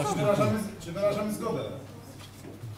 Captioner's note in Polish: głosy z sali